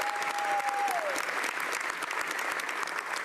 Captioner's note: speaking French